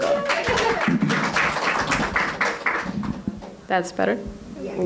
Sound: applause

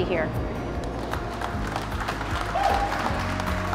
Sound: group claps

